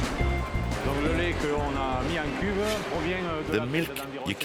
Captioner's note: speaks in french